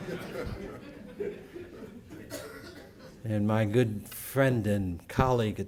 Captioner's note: laughter